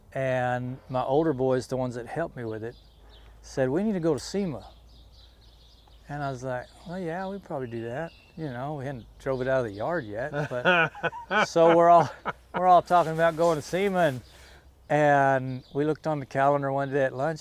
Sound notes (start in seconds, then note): 10.2 laughs